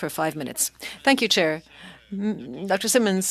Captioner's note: speaking French